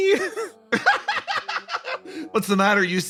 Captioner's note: laughs